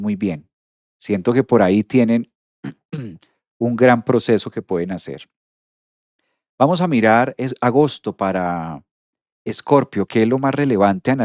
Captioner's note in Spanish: carraspeo